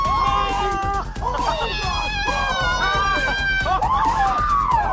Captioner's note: upbeat techno music; group screaming